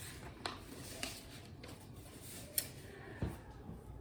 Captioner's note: papers shuffling